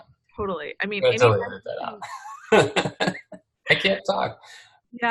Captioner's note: laughs